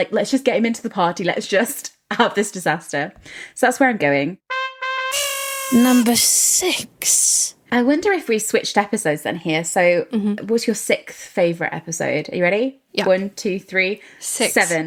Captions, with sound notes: "let's just get him into the party. Let's just have this disaster." So that's where I'm going. (horn honking) - Number six. - I wonder if we switched episodes then here. So what's your sixth favorite episode? Are you ready? One, two, three: seven. - Six.